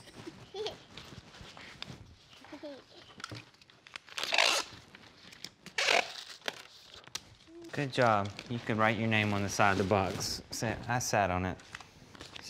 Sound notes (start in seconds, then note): 0.0 giggling; 5.1 tape ripping